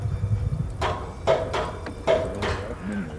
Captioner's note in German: Metallisches Klackern